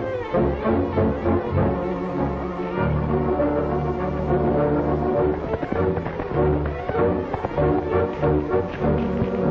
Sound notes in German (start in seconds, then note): 0.3 dramatische Musik; 5.6 galoppierend